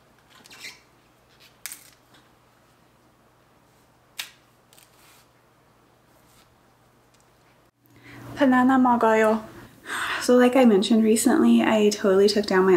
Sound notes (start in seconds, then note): 8.3 speaking korean